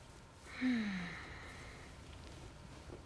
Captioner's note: sighs